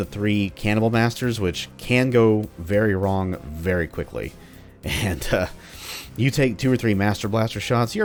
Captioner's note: chuckles